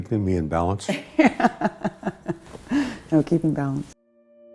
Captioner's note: laughs